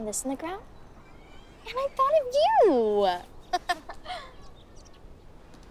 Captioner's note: laughs